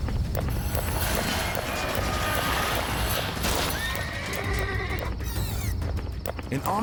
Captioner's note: buggy screeching; horse neighing